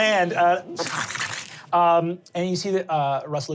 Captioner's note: wet skittering